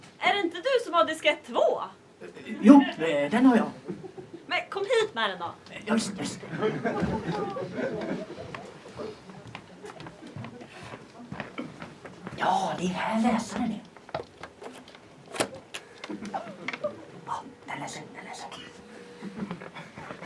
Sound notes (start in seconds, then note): 6.4 laughter; 15.2 Floppy disc drive clicks, whirrs; 17.2 whispering